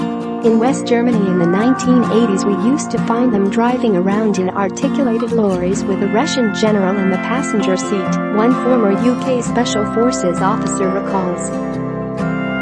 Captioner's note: Russian